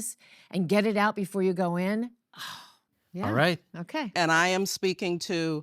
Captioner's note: exhales